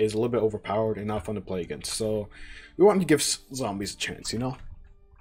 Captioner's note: inhales